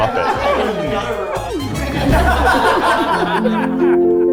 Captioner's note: all laughing; pleasant music